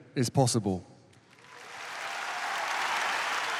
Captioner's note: cheering, applause